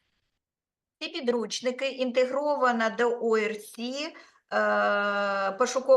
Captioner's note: speaking Ukrainian